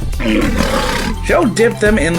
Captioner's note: lion's Roar